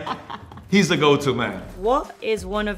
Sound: laughs

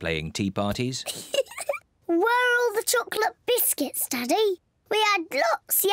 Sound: laughs

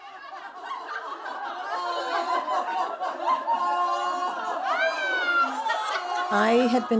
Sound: sounds of group pretending to scold while laughing

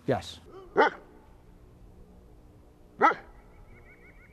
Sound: dog barks

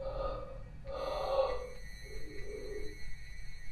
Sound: guttural noises

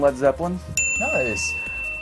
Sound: bell rings

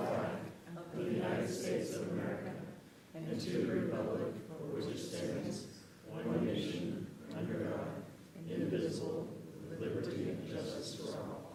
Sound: reciting pledge of allegiance

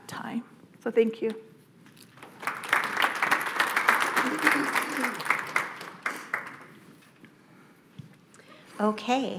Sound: audience applauding

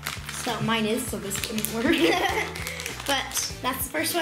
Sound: laughter

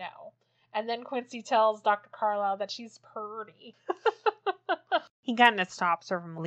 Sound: laughs

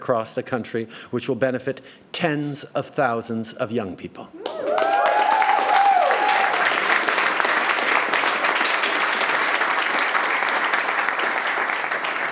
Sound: cheers & applause

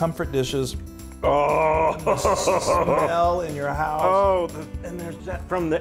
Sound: laugh

